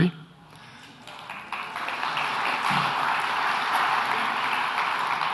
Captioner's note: audience applauds